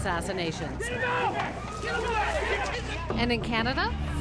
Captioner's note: people shouting